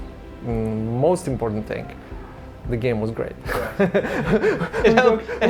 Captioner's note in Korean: 웃음